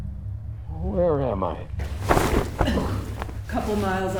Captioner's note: cloth ripping off